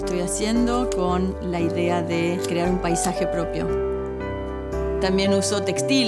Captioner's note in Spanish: chasquido encendedor